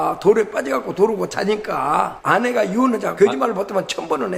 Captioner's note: none